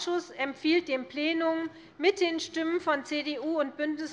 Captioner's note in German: none